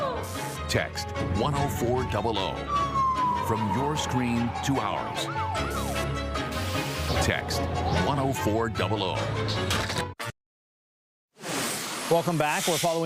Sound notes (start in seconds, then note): 6.6 siren